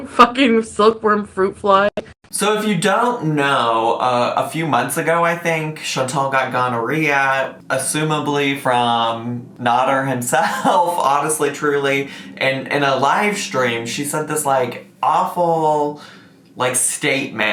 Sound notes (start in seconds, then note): 10.4 laughs